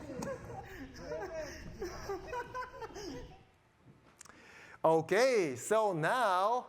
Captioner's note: scientists laughing